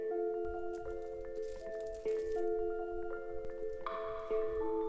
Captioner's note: paper rustling